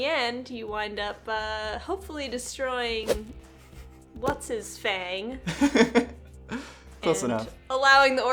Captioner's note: laughs